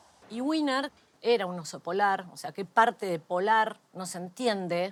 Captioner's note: none